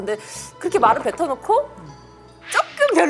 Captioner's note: gulp